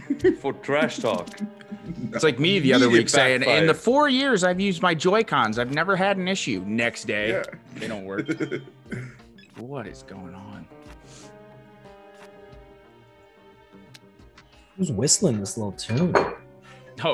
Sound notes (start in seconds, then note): 0.0 laugh; 7.2 laugh